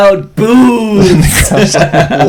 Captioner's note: laughter